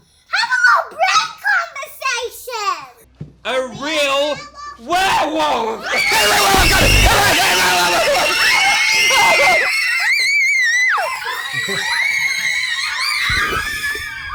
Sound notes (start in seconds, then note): 6.6 screaming